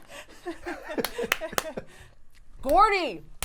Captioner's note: laughing